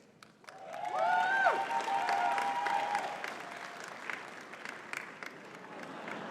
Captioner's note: audience cheering and clapping